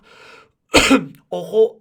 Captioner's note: Coughs in Spanish